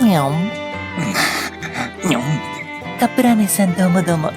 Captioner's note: laughs